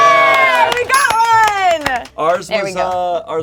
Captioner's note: cheering with joy